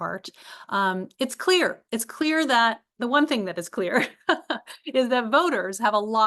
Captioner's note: laugh